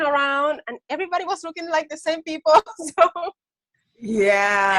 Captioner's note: laughs